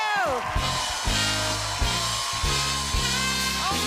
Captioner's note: cheers and applause